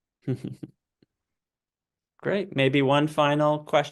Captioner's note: chuckles